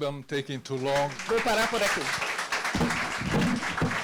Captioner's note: translator speaking Portuguese; audience clapping